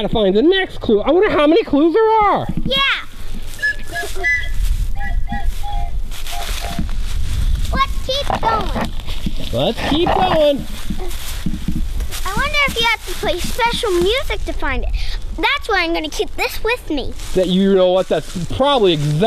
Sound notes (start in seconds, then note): 3.5 blowing whistle